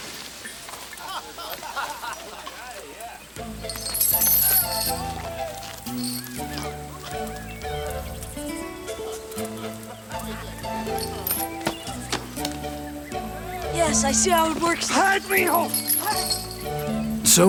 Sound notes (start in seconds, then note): 0.8 gang members laugh and chatter; 3.6 chain rattles; 3.7 gentle music; 11.2 rock thuds